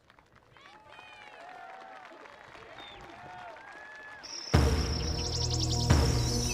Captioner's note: attendees applauding and cheering; energetic music